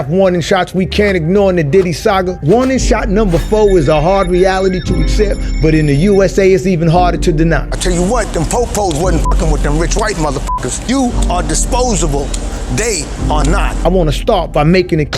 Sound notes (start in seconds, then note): 3.2 siren blares; 9.1 beep